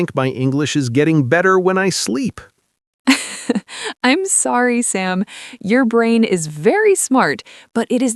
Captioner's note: laughs